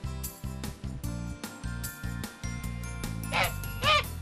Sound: goose makes sound

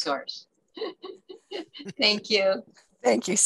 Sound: giggles

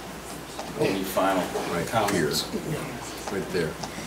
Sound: overlapping chattering

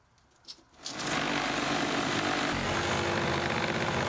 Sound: saw whirring

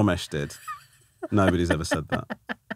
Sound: laughing

